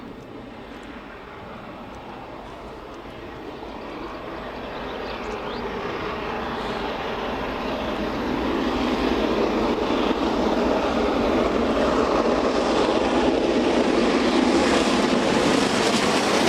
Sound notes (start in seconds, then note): 6.3 birds chirping; 12.3 train passing